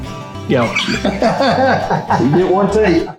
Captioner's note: laughing